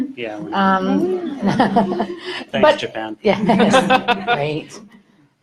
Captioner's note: crowd laughter